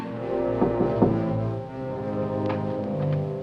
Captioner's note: Knocking